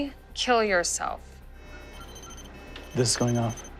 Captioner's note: electronics beeping